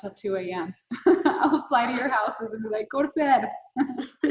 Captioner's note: laughing